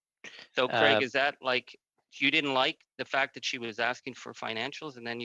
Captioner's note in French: voix de l'interprète